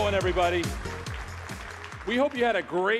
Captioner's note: applause